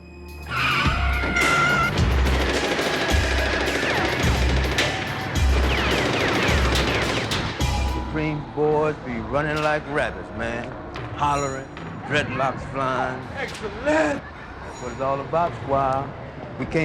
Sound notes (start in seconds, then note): 0.5 tires screeching; 1.3 gunshots ringing